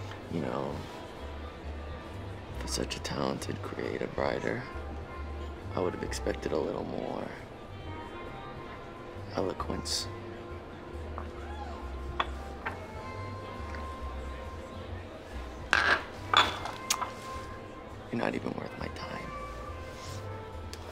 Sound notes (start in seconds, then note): 10.9 crowd chattering over pleasant big band music; 15.7 glass rattling; 20.6 crowd chattering over pleasant big band music